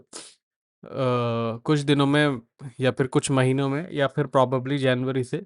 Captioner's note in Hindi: नाक से की जाने वाली आवाज़